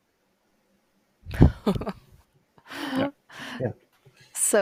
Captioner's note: laughs